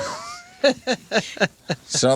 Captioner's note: laughing